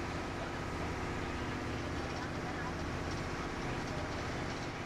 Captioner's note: boat motor hums